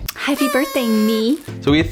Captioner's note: air horn